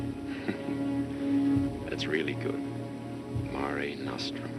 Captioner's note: chuckles